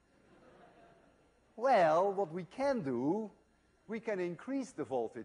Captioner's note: laughter